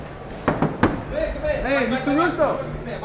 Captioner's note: knocks on door